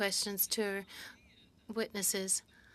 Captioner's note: speaking French